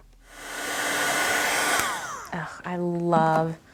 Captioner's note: tool whirs